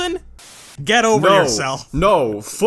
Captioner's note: static